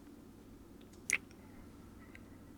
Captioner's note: kiss